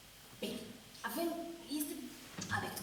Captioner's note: Spanish